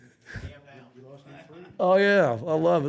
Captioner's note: faintly speaking